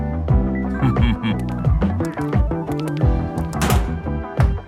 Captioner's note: snickering; knocking